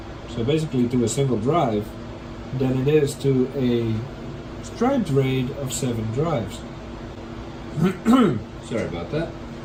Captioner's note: clears throat